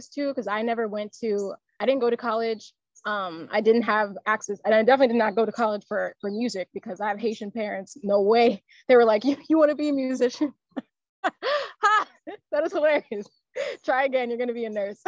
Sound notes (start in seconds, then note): 11.2 laughs